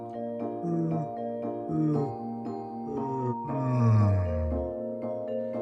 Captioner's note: yawns